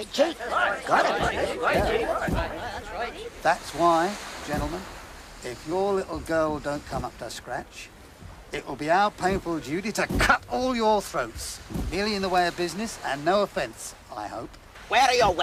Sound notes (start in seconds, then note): 10.1 stomping feet